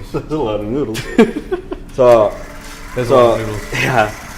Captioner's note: chuckle